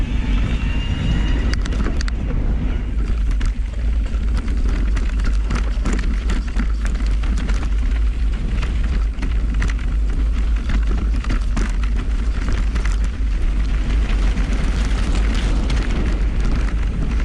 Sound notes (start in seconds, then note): 0.2 bike hums; 4.0 bike ratchets; 4.0 dirt rustling